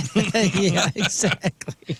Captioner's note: laughing